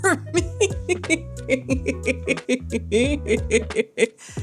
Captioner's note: laughs